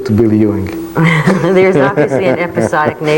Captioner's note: laughs gently